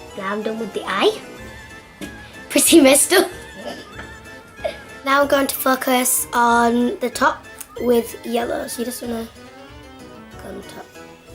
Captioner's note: laughs